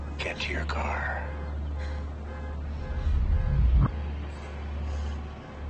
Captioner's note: horn continues honking